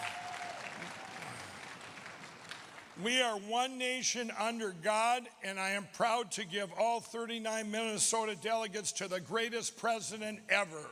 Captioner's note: applause